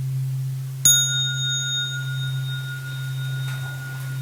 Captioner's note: sound of the small bell